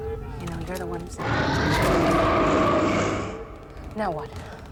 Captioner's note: vampire roaring